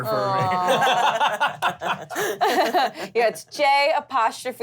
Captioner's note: laughter